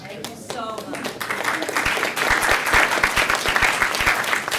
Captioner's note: more applause